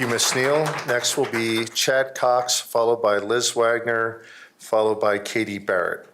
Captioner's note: applause